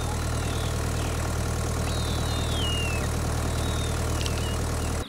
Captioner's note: Shrieking